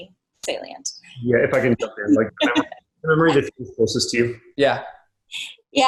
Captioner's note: murmurs